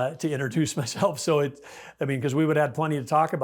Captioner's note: chuckles